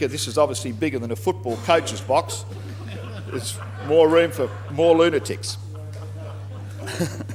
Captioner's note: laughter